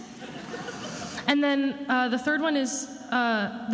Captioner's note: attendees laughing